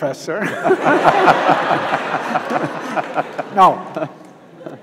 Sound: audience laughs

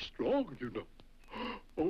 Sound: gasps

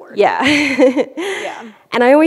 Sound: laughs

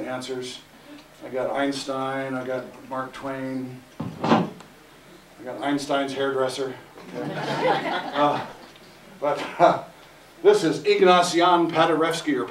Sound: laughter

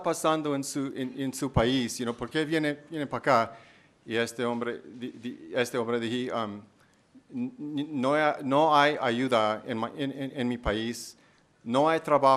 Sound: speaking spanish

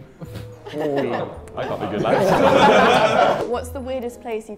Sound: Sidemen laugh

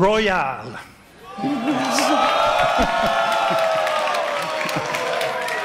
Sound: cheering and Clapping from the Audience

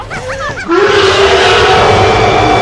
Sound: pure rage and hatred of all living things in sound form

